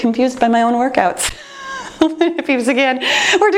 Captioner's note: laughs